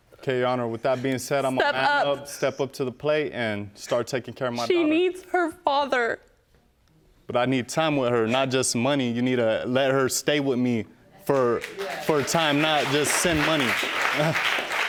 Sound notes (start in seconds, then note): 11.3 audience clapping